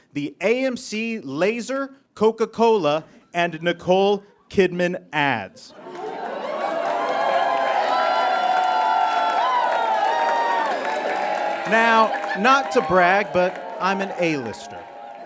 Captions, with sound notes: the AMC Laser, Coca-Cola, and Nicole Kidman ads. (audience cheers and applauds) Now, not to brag, but I'm an A-lister.